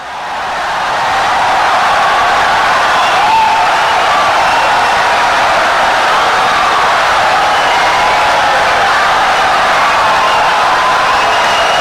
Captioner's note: wild applause and cheering for 17 seconds